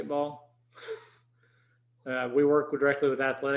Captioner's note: chuckles